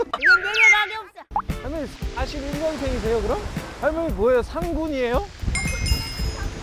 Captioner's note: familiar footsteps